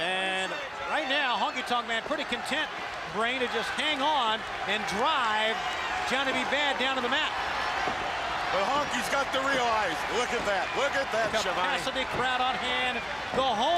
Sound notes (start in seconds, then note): 7.7 crowd chatter